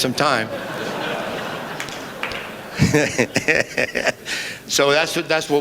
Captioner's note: laughter